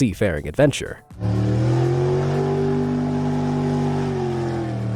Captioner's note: car motor revving